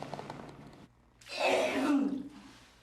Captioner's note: vomiting